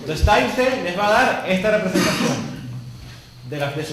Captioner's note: cough